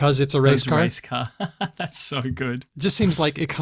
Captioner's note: laughs